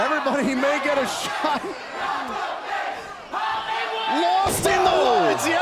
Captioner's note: crowd cheering